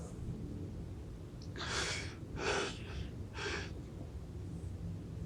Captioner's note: sighs